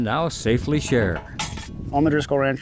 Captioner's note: gate clattering